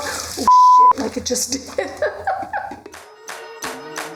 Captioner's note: beep; laughing; upbeat music